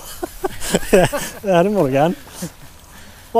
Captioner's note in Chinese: 丹麥語